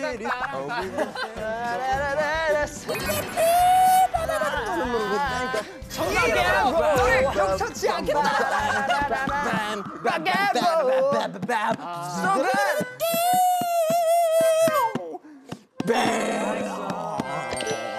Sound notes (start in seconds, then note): 12.9 wheeeeee